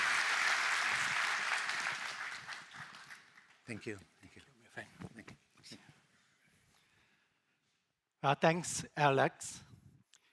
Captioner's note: applause